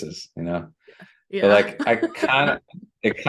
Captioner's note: laughter